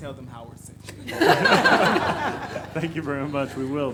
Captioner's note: everyone laughs